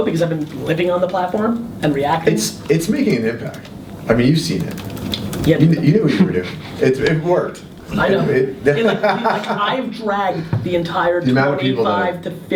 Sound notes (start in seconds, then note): 7.8 laughs